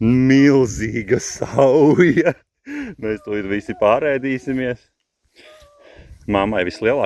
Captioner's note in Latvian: smiekli